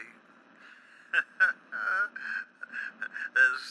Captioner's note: laughs